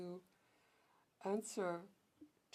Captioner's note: speaking french